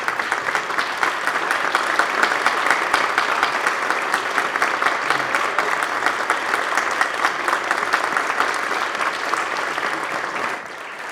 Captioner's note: applause